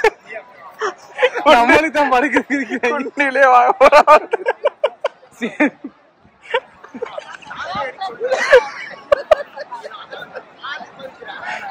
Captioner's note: laughs